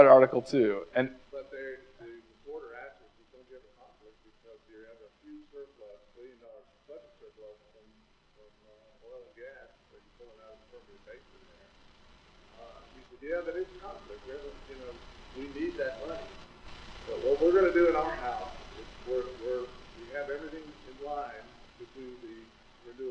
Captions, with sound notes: I read that article, too. (audience member continues to speak off microphone)